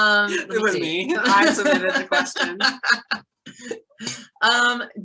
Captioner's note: laughing